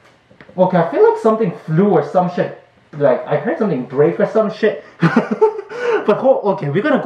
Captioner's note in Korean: 이히히힛